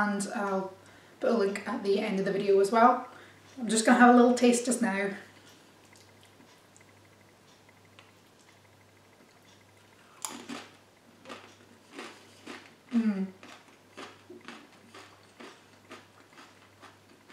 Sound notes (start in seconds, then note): 10.2 big cronch; 13.9 smaller cronches